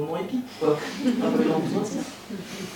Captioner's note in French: rires